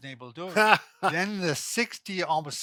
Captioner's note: laughs